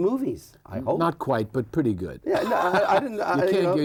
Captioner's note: laughs